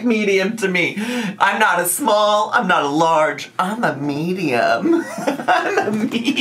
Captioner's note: laughs